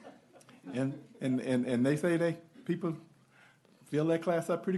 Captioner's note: giggles